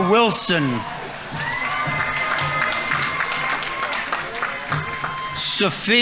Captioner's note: audience applauding; audience members cheering